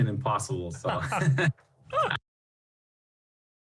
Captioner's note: laughter